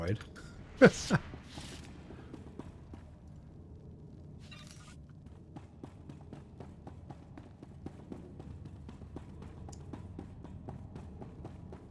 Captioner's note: laughs